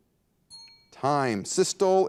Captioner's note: bell rings